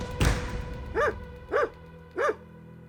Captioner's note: banging; barking